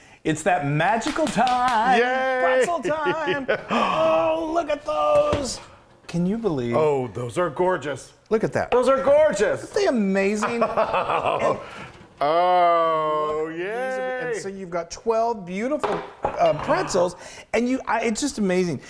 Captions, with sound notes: It's that magical time. >> Yay [LAUGH] >> Pretzel time, look at those. Can you believe? >> Those are gorgeous. >> Look at that. >> Those are gorgeous. >> Aren't they amazing? >> [LAUGH] Yeah. >> So you've got 12 beautiful pretzels and it's just amazing.